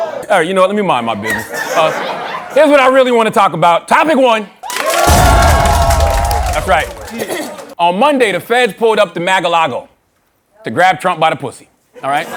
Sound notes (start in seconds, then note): 4.6 cheers and applause